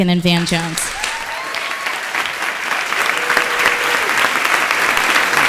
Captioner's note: audience cheering and applauding